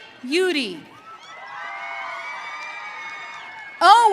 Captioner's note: audience cheering